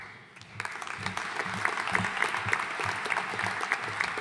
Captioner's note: audience applauding